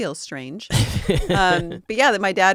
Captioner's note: laughing